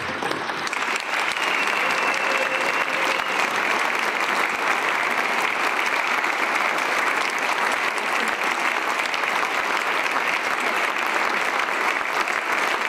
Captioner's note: applause